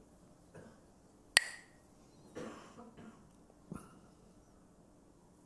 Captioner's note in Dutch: klakt met stokjes